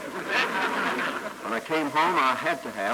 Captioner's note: laughter